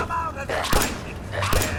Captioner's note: blam!